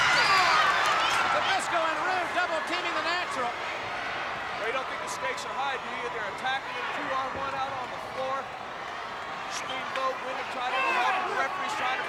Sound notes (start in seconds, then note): 0.0 fans scream